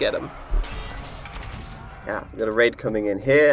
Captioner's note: soldiers yelling and swords clanging